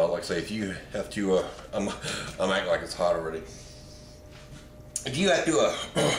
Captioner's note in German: lacht